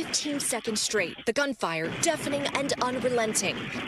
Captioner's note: sound of gunfire